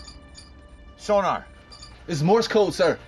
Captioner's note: beeping